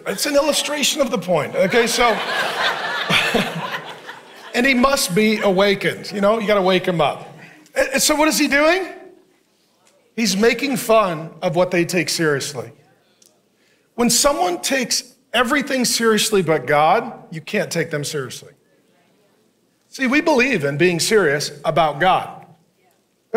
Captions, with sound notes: It's an illustration of the point, okay? So. (congregation laughing) And he must be awakened, you know? You gotta wake him up. And so what is he doing? He's making fun of what they take seriously. When someone takes everything seriously but God, you can't take them seriously. See, we believe in being serious about God,